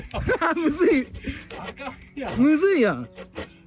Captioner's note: laughs